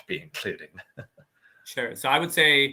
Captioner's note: laughing